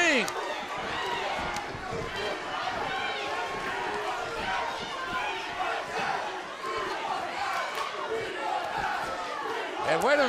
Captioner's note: crowd cheering